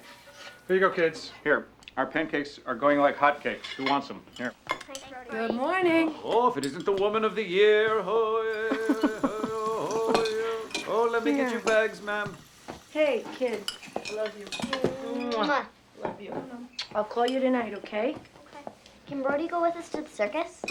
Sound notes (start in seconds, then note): 7.9 chanting; 8.1 laughing